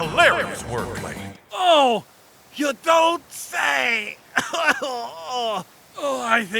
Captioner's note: cough